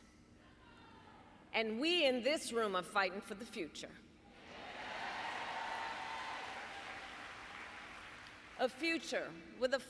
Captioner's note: applause